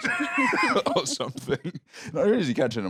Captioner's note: laughs